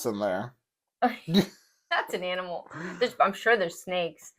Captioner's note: laugh